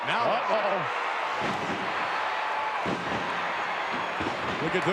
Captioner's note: audience cheering